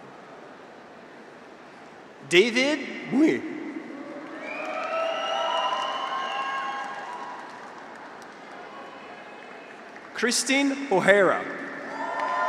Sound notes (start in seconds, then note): 3.7 graduates cheer; 4.1 audience applauds